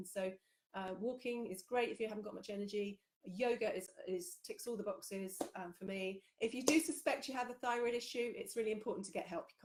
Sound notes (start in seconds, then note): 6.6 claps